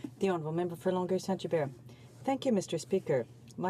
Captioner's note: speaking French